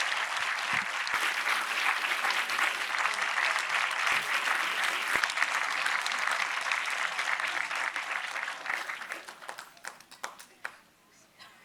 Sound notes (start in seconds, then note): 0.7 audience applauds